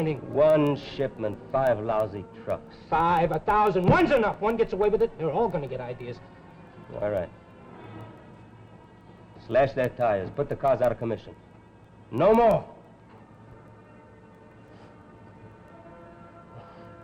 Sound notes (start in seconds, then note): 4.0 hands thuds; 13.5 suspenseful music